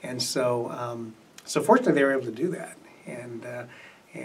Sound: none

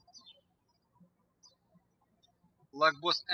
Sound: birds chirping

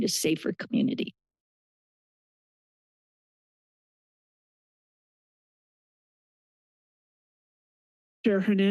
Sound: silence

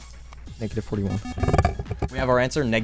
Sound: wispering

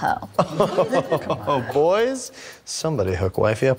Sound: chuckle

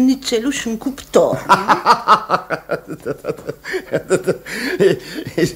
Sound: laughs

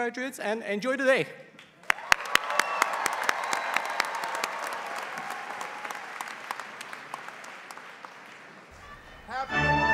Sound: applause

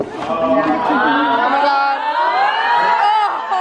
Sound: chattering

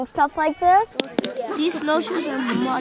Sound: clicking Sounds

